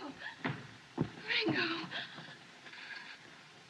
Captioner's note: gasping